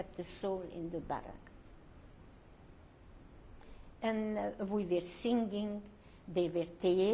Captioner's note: pauses for 3 seconds